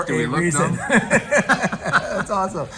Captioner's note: laughs